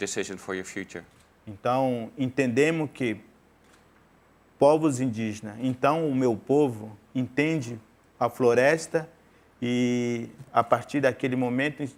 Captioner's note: speaking in portuguese